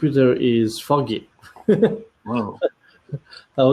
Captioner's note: laughter